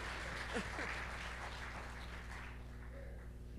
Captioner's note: applause